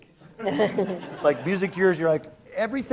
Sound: laughter

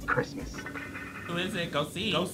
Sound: mysterious rattling

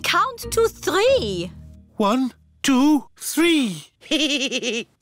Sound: giggles

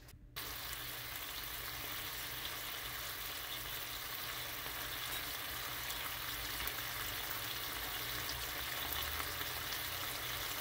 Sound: bacon sizzling

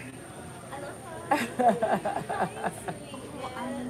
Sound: laughs

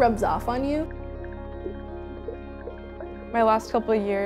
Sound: underwater sounds

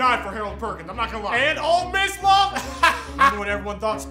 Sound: laughs

